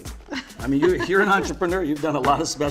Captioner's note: laughs